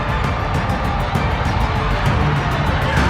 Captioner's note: cheering